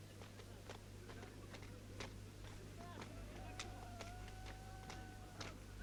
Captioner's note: rooster crows; villagers chattering